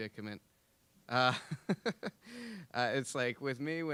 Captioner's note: laughing